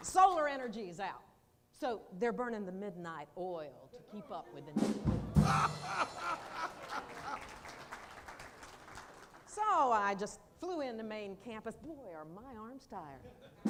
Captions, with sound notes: Solar energy is out. So they're burning the midnight oil. (laughter) So I just flew in to main campus boy are my arms tired.